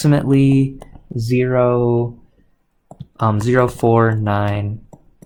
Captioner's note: keyboard clicks